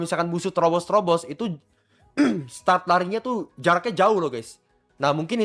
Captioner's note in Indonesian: berdehem